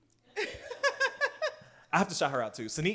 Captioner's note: laughs